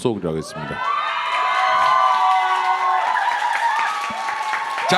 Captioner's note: applause and cheers